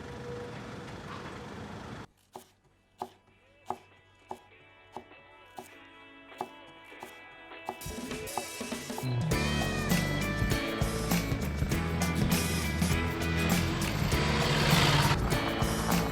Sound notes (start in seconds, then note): 2.6 knife thudding; 2.6 upbeat music; 10.9 engine rumbling; 10.9 upbeat music